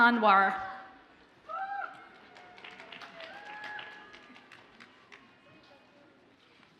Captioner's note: audience cheers and applauds faintly